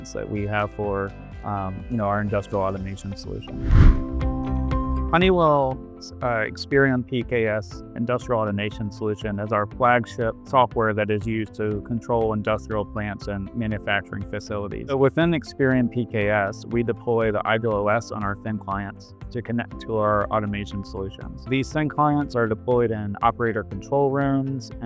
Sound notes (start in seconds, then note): 3.3 upbeat music; 3.4 air whooshes